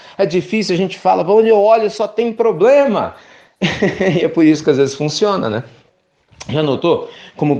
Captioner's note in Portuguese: risos